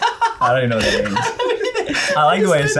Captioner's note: laughs